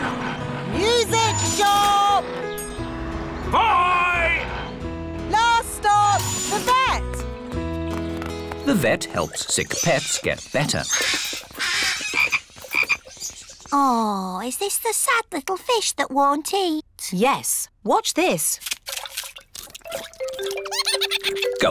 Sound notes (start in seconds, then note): 11.1 birds squawk; 11.5 frog croaks; 20.6 giggles